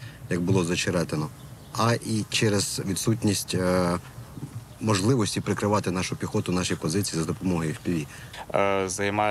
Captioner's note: drones